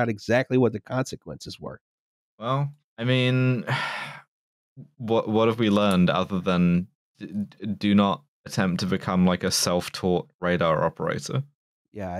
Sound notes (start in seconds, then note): 3.5 sighs